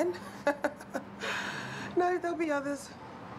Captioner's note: laughing; exhales